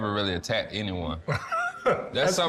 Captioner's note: laughs